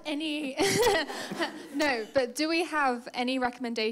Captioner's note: audience laughing